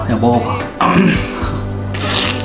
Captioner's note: cough